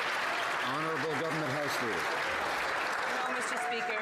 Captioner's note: some Applause